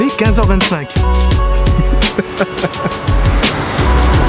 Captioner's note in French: Rire coupable